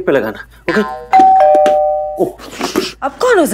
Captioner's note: Doorbell rings